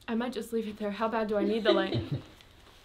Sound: laughter

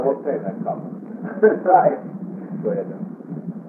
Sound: laughing

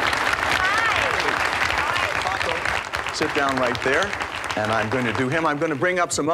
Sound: applause

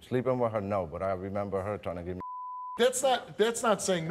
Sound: beep

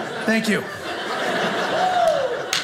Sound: audience laughing

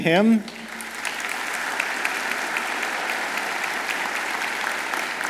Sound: audience applauds

